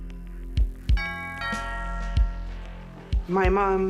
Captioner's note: doorbell